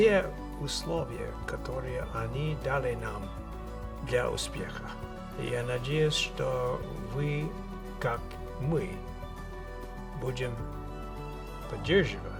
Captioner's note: speaking Russian